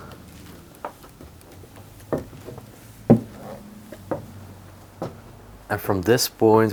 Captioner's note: footsteps tapping up the stairs